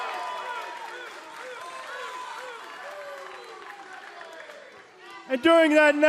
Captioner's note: cheers and applause